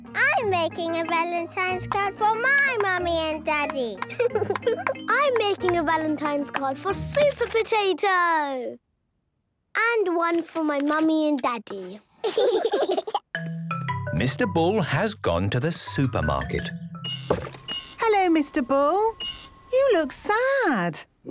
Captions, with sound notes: - I'm making a Valentine's card for my mummy and daddy. Tee, hee, hee! - I'm making a Valentine's card for Super Potato! And one for my mummy and daddy. - (all laughing) - Mr. Bull has gone to the supermarket. - (machine beeping) - Hello, Mr. Bull. You look sad.